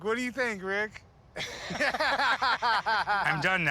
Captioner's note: both laughing